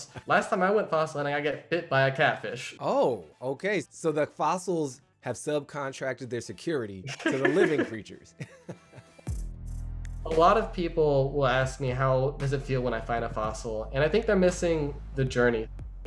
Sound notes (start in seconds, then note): 7.0 chuckles